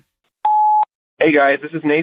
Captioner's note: voicemail beeping